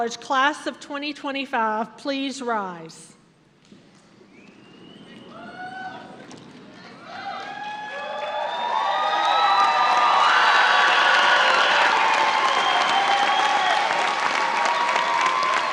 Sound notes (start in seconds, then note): 4.5 cheers, shouting, and applause